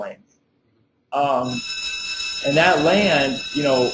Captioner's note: bell rings